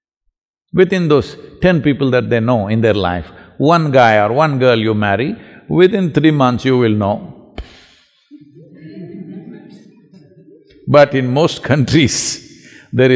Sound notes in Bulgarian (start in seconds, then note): 8.3 Смях; 12.8 Смее се